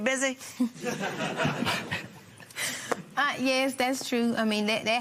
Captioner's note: laughter